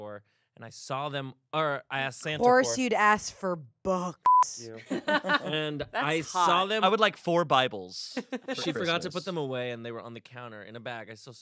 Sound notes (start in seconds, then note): 4.2 beep; 4.9 everyone laughs